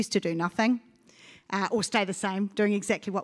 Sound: none

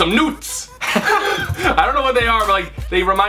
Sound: laughter

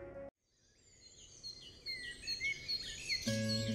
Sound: birds whistling

